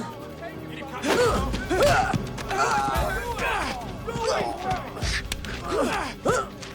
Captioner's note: Henderson and Dalton grunting